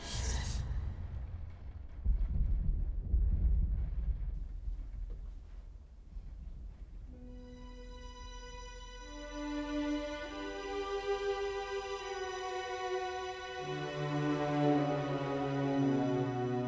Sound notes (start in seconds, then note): 2.5 thunder rumbling; 7.5 dramatic music